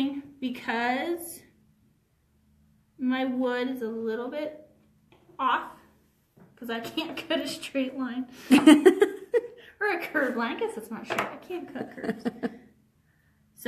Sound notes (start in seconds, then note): 8.4 laughs; 8.5 chuckles; 11.8 laughs